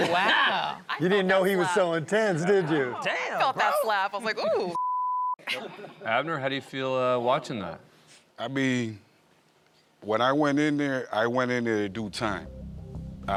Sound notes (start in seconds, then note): 4.7 beep